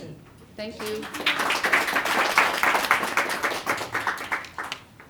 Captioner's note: applause